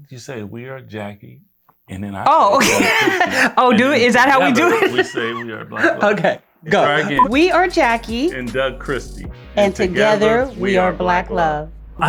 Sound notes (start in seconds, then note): 2.5 laughs; 7.0 beeping